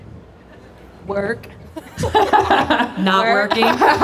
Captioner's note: laughs